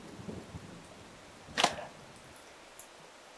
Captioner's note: thump; rain trickling in distance